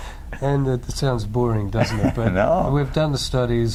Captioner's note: laughs